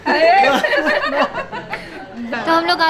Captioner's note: Everyone laughs